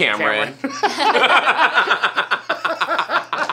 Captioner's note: all laugh